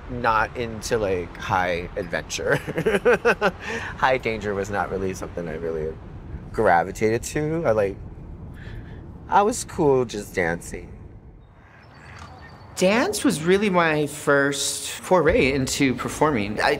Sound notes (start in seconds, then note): 2.5 laughing